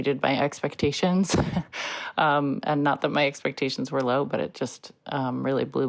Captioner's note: chuckles